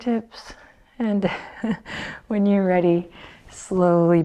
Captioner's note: chuckles